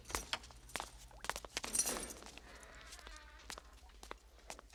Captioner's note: door lock clicks open